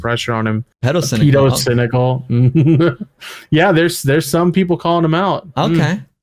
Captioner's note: laughs